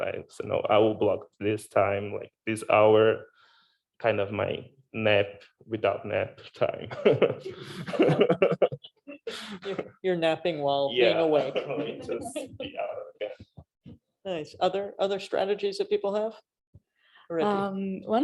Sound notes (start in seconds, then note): 6.8 laughing